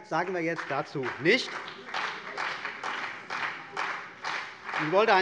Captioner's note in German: Beifall bei der CDU und dem BÜNDNIS 90/DIE GRÜNEN